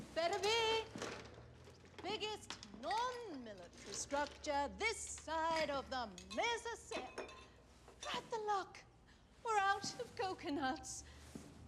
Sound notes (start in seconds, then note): 6.8 glasses clanking together